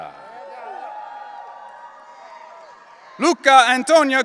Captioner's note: audience cheering